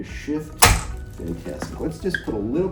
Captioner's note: table clanking